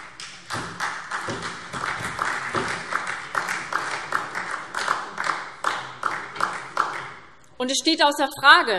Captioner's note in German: Beifall SPD